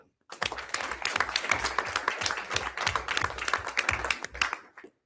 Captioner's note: everyone applauds